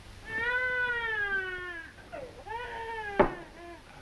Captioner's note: baby crying